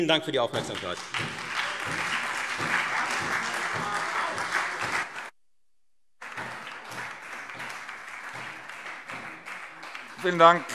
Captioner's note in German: Lebhafter Beifall Freie Demokraten und SPD